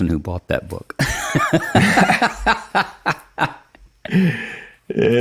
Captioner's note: laugh